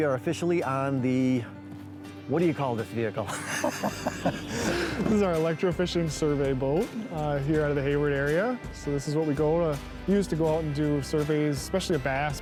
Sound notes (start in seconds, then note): 3.2 laughs